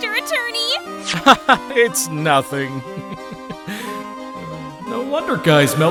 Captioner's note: chuckles